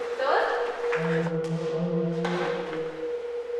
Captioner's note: distanced moan